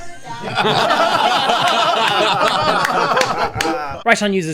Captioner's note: laughter